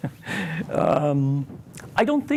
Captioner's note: laughing